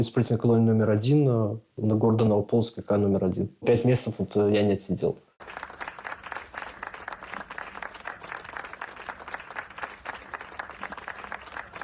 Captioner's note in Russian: аплодисменты